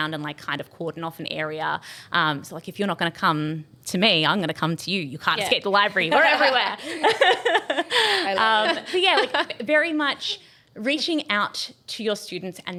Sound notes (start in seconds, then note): 6.2 group laughing